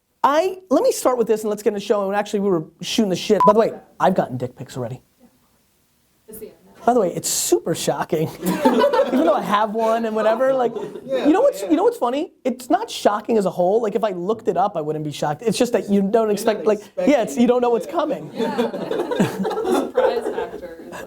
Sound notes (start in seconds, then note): 8.4 laughing; 18.2 laughing